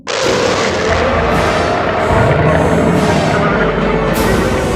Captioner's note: cacophony of underwater noises